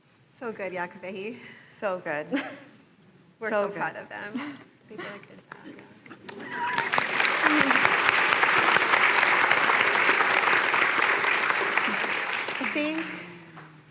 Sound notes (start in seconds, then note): 6.2 applause